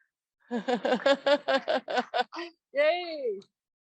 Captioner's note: laughs